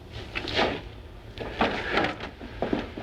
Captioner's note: none